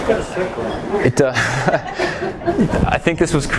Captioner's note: laughs